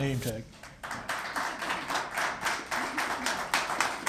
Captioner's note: applause